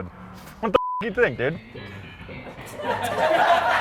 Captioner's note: beep; crowd laughing